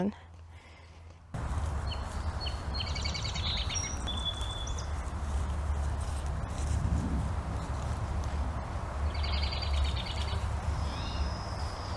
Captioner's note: birds singing and needles clicking occasionally